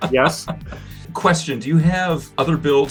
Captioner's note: laughing